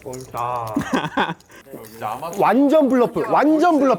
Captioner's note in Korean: 웃음